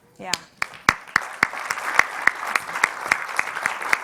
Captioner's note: clapping